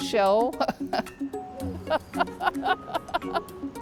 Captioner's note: laughing